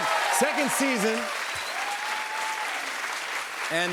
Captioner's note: cheers and applause